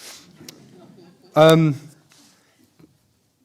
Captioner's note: laughter